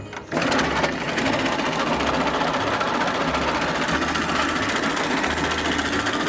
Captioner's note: car engine revving and rumbling